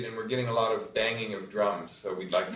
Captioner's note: group laughing